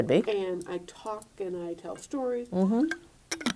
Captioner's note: removing lid and closing lid